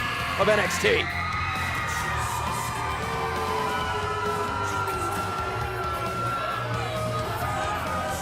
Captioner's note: crowd cheering